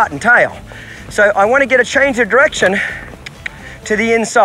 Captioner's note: mouth clicking